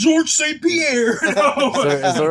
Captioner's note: laughing